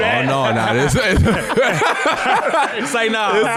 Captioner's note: all laughing